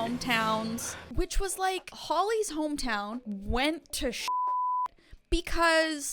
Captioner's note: beep